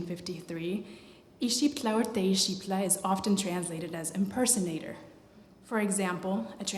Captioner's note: non-english